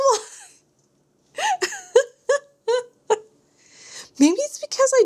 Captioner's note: laughter